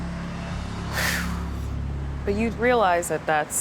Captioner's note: exhales